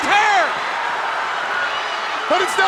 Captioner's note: crowd cheering